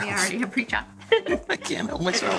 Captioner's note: laughs